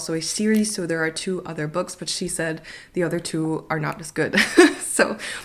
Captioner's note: laugh